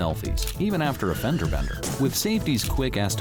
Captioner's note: brakes squeal, cars crash